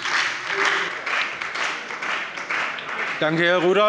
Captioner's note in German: Beifall bei der : „Eines“ hat er gesagt!